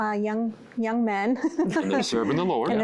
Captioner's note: giggling